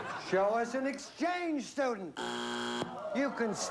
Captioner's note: buzzer